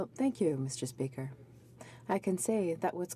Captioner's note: speaking French